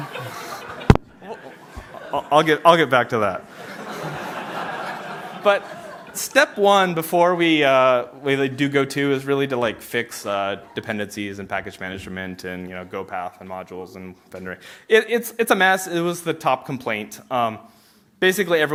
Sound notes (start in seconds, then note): 3.4 laughter